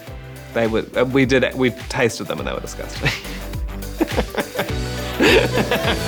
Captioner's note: chuckles; laughter